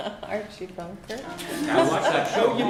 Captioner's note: laughter